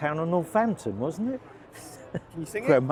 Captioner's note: chuckles